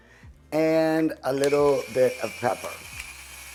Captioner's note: grinder whirring